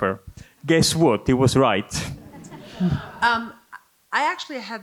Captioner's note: audience laughing